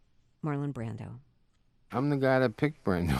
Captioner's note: soundbite of archived broadcast